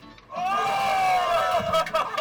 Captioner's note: bright guitar music; crowd cheering; clapping